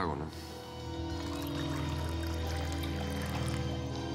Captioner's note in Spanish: sonido al servirse el trago